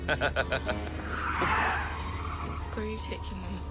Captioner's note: laughs; tires screeching